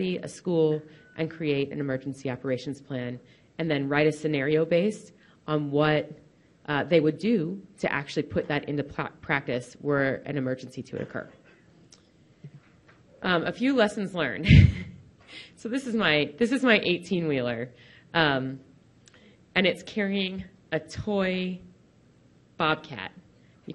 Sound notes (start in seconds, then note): 14.8 laughs